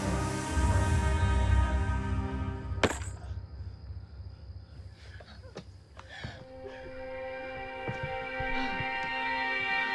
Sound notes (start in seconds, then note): 0.0 dramatic music; 0.2 snake hissing; 4.0 insects chirping